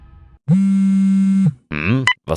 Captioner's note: mobile phone vibrating